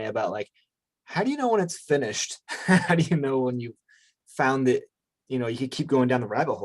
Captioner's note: chuckles